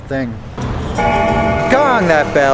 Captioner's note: bell gongs